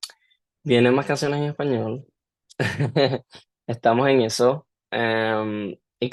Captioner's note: laughter